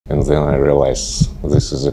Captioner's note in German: englisch